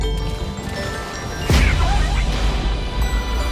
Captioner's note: squawking